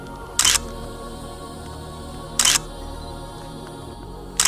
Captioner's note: camera shutter clicking